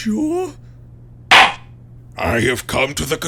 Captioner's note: gavel slams!